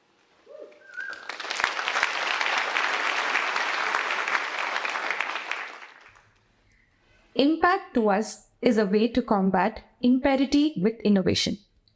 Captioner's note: applause